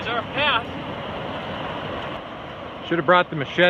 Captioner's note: water rushing